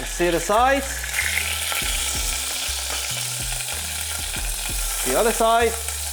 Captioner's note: sizzling sound